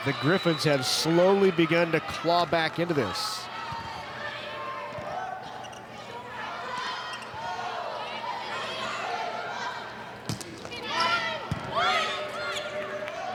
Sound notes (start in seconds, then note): 4.4 players shouting indistinctly; 10.4 ball thumping